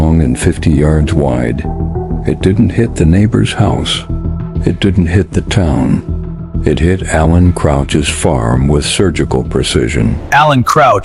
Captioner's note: sarcastic Commentary